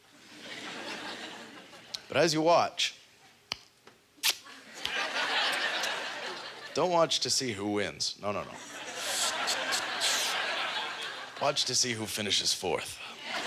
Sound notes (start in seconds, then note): 4.2 smacking; 4.5 audience laughter; 8.5 audience laughter